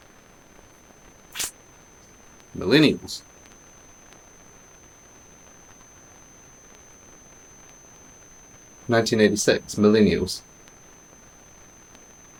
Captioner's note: high Pitched Ringing